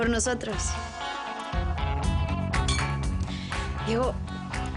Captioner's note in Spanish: Chocan las botellas